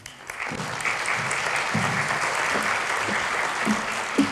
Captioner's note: applause